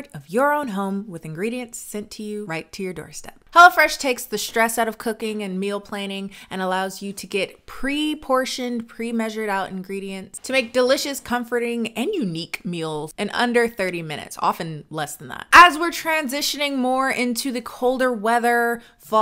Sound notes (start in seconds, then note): none